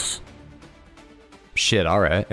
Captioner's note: even more awkward silence